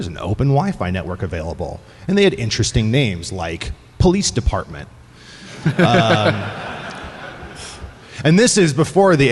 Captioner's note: laughter